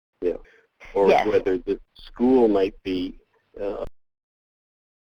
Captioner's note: voiceover